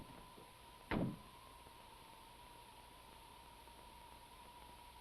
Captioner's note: car door slams